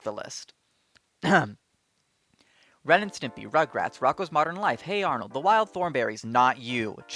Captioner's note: ahem